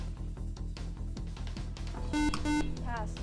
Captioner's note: beep